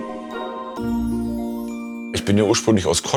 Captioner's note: magical sound